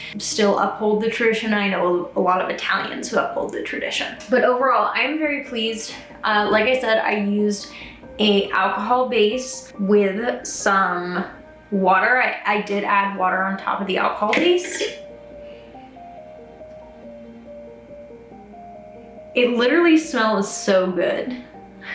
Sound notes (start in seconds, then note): 14.9 opens jar; 14.9 sniffs